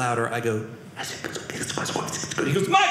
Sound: whispering

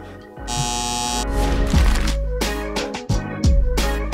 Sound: buzzer sound

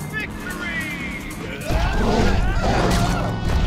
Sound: screaming

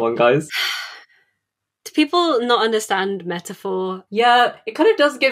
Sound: sighs

